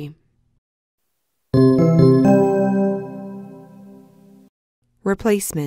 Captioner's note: chimes